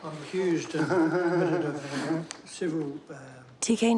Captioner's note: laughs